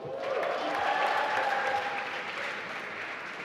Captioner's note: applause